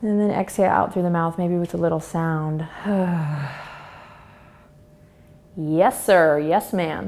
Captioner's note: exhales